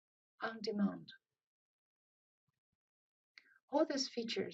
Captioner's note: pause